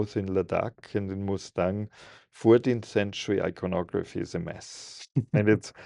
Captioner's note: laughs